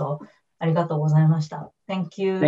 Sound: speaks in foreign language

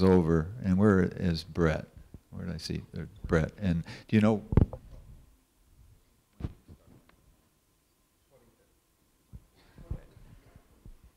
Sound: speaking off of the microphone

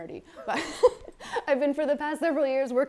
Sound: laughs

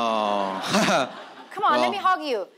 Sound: audience laughing

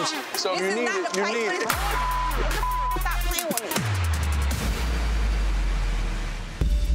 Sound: beep

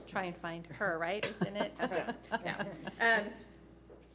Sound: laughs

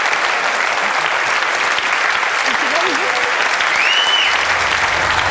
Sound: applause; applause

